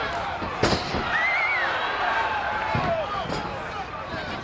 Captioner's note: audience cheers